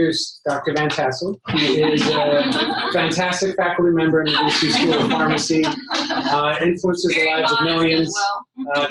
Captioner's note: laughter